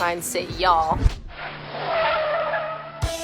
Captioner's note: tires screeching; lively rock music